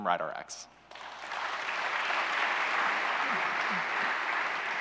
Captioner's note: applause